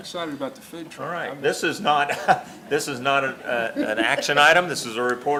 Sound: laughs

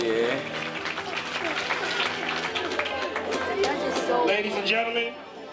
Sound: clapping

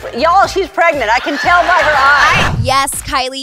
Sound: audience laughter

